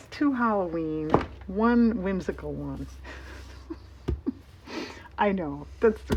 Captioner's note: laughs